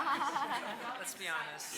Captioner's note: applause; laughter